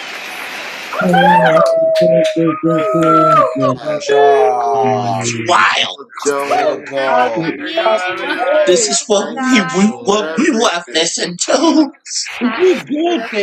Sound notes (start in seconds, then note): 0.0 applause